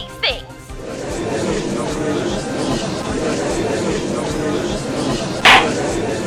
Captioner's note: gallery chattering; gavel slams!